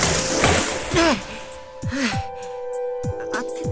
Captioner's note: labored breathing